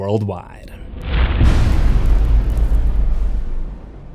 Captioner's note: impact